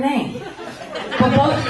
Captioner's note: laughter